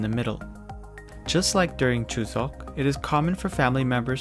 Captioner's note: speaking in Korean language